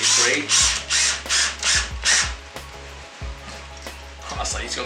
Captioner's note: drill whirring